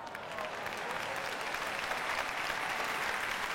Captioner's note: applause